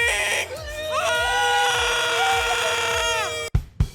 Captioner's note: excited squeals